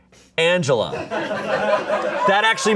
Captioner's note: audience laughing